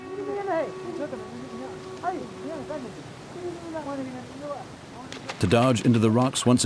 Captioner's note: speaking foreign language